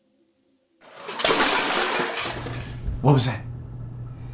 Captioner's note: clattering